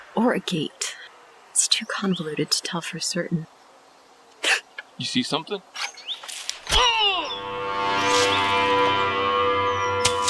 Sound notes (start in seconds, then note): 4.4 gasps; 6.8 Morales screams